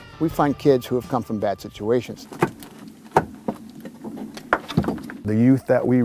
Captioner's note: hammering